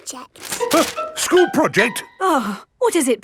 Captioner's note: gasps; sighs